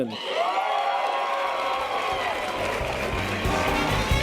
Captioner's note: audience applause and cheers; jazzy music